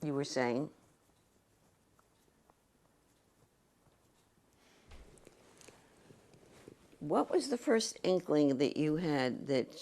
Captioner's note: pauses for 6 seconds